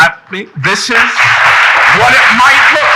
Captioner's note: audience applauding